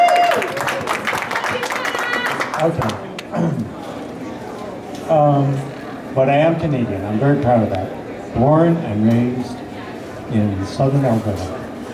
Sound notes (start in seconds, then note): 0.0 woo! woo!; 0.0 applause; 3.3 clear throat